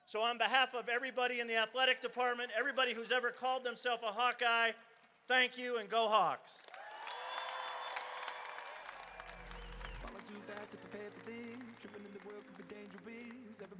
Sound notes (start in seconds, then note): 6.6 crowd cheering